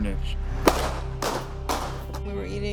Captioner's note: gunshots